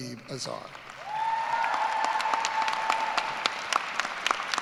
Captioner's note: cheers and applause